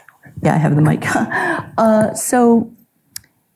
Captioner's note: chuckles